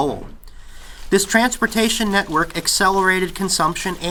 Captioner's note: loud banging and clacking of textile machinery